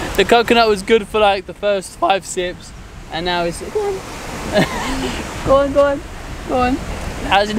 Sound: laughing

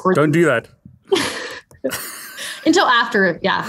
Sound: both laugh

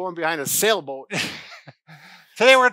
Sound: chuckles

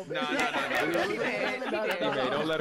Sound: group laughing

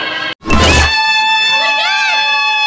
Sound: exciting instrumental music; people cheering

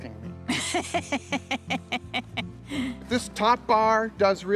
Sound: woman laughs

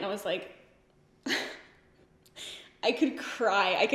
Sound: giggles

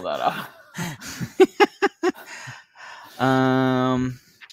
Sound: laughs

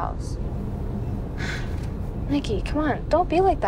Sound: sighs

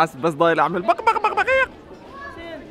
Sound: clucking

